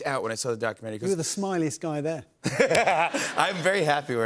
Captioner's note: laughs